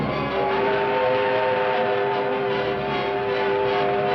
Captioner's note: train whistling